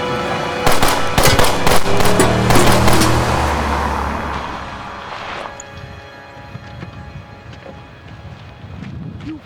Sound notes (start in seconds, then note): 0.6 guns banging; 3.7 suspenseful music fades